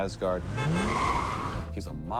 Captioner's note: horn honks, then tires squeal